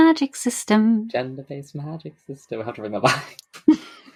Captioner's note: sing-song; laughs